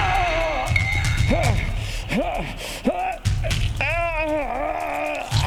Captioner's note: Shepherd groaning